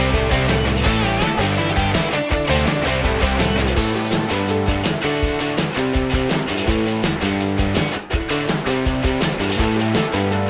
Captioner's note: cheering and applause